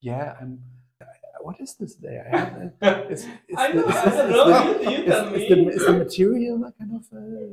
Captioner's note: laugh